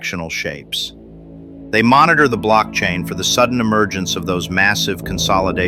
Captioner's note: excited